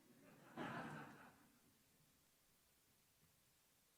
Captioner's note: audience laughs